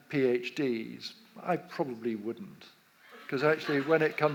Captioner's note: audience laughs